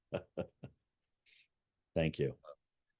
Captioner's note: chuckling